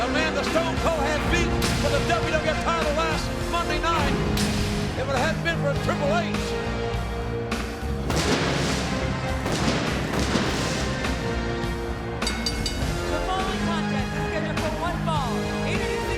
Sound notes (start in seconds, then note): 7.3 audience cheers; 8.0 pyro bangs; 12.2 bell rings